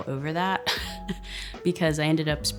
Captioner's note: chuckles